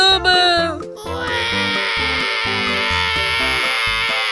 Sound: baby crying

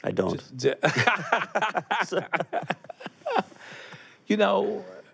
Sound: laughter

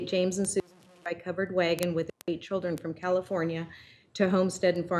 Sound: audio cutting in and out

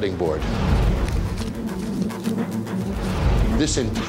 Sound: money rustling

